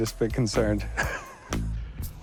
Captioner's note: laughs